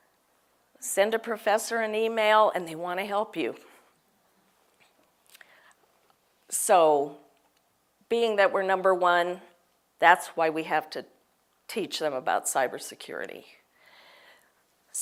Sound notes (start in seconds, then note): none